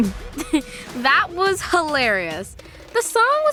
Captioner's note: laughs